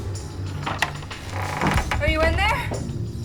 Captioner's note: door creaking